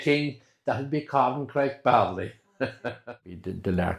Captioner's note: laughter